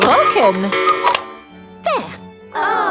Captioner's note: cuckoo clock